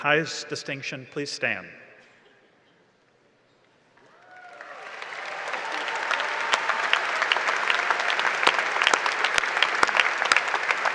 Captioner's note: applause and cheering